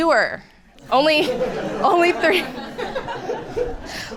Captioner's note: audience laughing